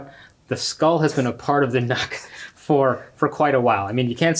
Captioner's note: chuckles